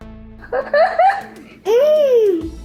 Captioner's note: laughs